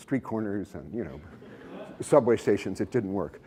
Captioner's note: laughter